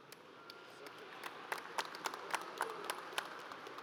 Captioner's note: audience applauds